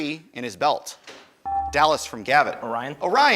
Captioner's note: buzzer dinging